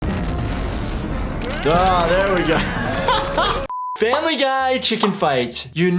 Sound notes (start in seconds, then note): 0.0 boom; 2.5 laughing